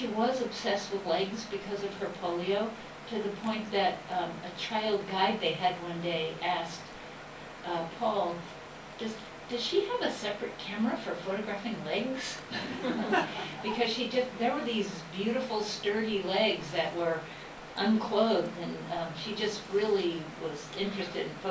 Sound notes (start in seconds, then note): 12.5 laughter